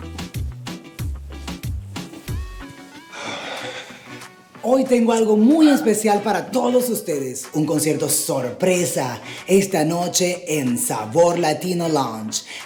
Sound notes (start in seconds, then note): 2.9 exhaling